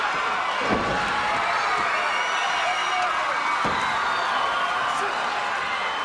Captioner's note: crowd cheering